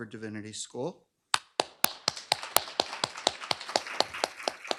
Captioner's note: applause